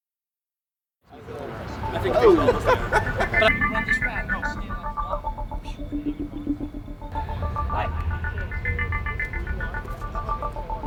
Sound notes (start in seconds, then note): 1.1 background conversation, laughter, music